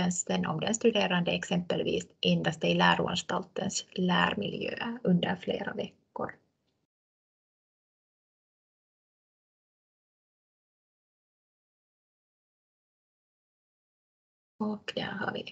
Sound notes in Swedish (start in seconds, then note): 7.0 Tystnad